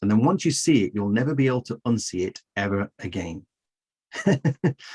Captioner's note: chuckles